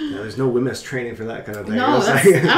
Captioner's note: laughs